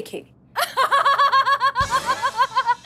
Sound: laughing

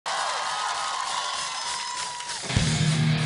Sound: audience applauding

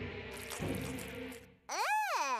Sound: rustling

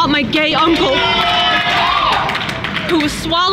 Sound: crowd cheering in the background

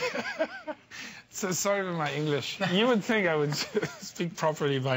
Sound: laughter

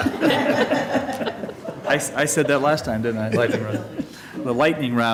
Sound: laughter

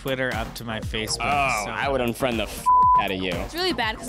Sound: beep

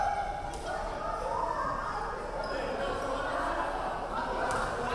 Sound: crowd chattering

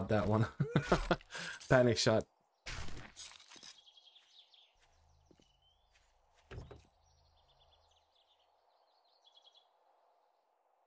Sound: laughs

